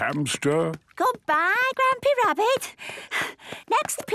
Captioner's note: panting